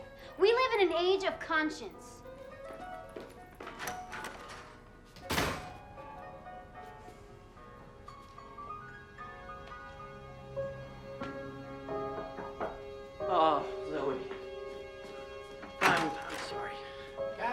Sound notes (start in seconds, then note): 5.1 door slams; 12.0 knocking